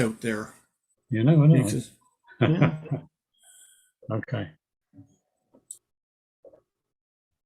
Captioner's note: laughing